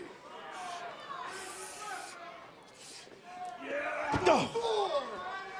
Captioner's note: crowd chatter